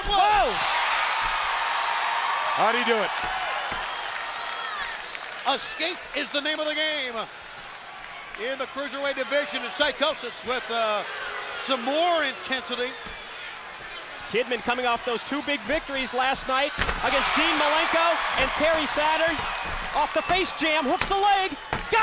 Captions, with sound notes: Whoa! (crowd cheers) How'd he do it? Escape is the name of the game. In the cruiserweight division and Psychosis with some more intensity. Kidman coming off those two big victories last night against Dean Malenko and Perry Saturn. Off the Face Jam, hooks the leg!